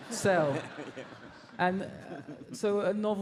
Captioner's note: audience laughs